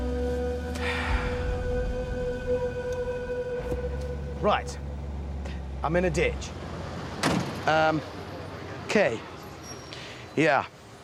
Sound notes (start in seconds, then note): 0.7 sighs